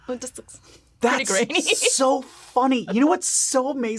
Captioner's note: laughs